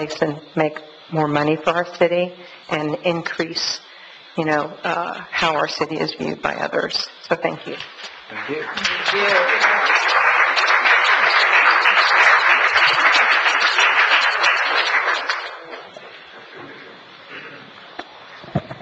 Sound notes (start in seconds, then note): 8.3 audience applauds